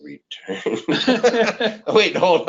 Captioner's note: men laughing